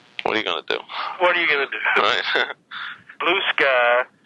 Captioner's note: laughs